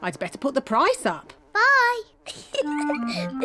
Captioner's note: giggles